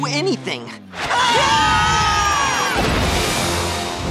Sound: screaming

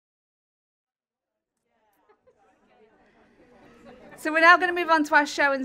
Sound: audience chattering

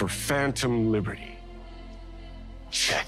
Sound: whispering

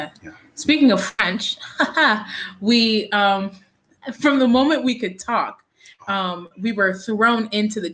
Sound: laughs

